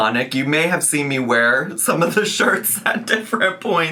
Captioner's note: laughs